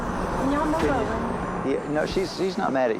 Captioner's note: speaking spanish